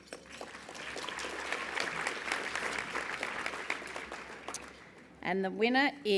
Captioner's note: applause